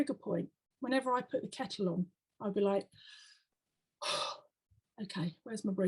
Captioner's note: deep breath